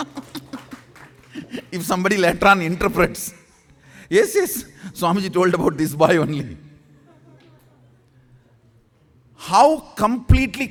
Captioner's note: laughs